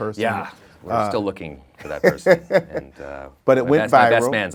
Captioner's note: laughing